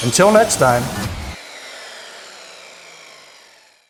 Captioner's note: saw whirs